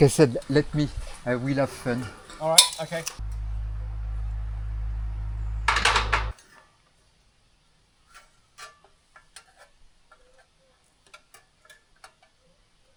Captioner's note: metal clanking